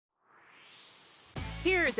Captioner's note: swoosh